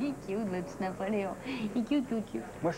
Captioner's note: Elle rigole